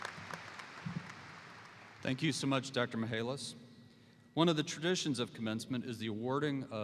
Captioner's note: applause